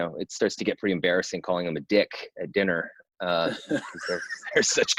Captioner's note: laughs